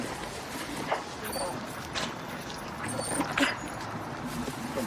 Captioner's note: dog whining